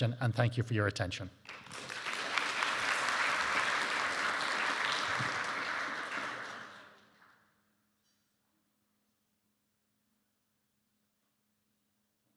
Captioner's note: audience applauding